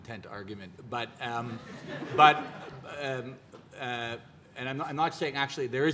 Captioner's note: audience laughs